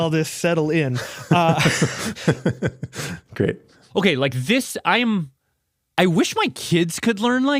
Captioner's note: laughs